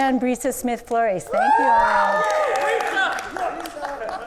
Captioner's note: audience cheers and applauds